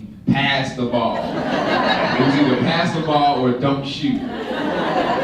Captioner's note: laughter